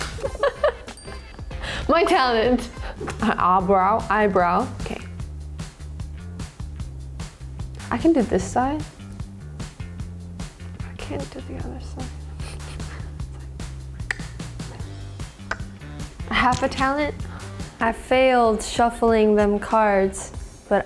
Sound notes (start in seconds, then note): 0.0 laughs; 2.5 image pops; 5.6 funky upbeat music; 8.9 funky upbeat music; 12.4 laughs lightly; 14.1 funky upbeat music; 15.4 clicks her tongue; 16.9 image squelches